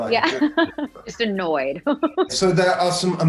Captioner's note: laughs